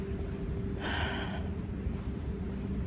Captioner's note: sighs